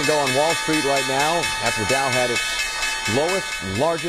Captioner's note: bell rings